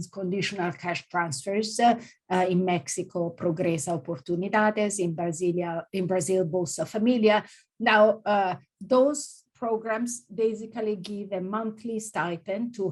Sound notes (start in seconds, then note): 2.7 speaking in Spanish; 6.1 speaking in Portuguese